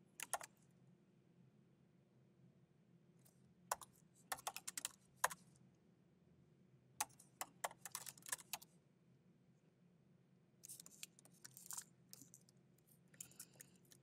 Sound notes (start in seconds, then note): 0.3 keyboard clacking; 8.3 keyboard clacking continues